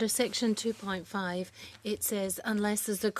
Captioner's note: speaking French